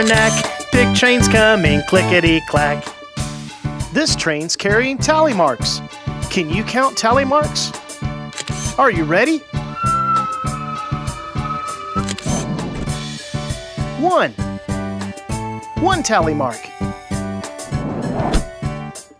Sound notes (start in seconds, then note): 9.7 SFX: Train whistle; 12.0 SFX: Camera Shutter